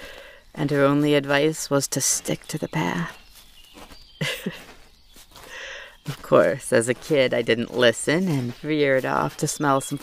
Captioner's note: laughs